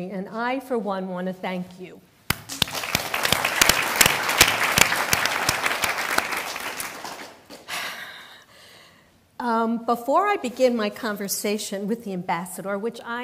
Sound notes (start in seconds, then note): 2.3 applause